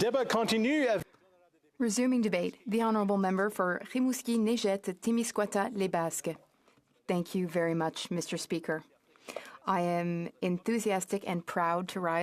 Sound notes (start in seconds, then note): 3.8 speaking French